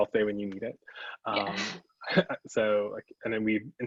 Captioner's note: both laugh